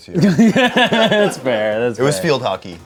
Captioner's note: everyone laughs